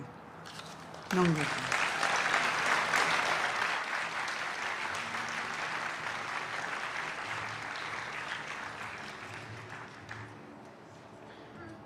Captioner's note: applause